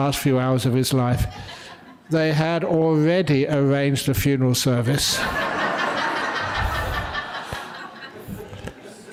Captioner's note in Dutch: lachen